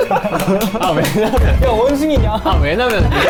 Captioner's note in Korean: 오열